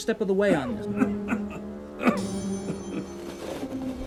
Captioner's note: Mayor coughing